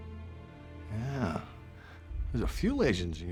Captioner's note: scottish accent